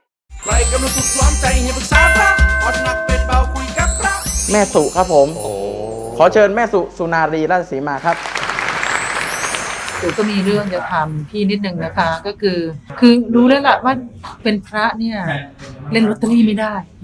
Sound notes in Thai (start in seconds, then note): 8.0 เสียงปรบมือ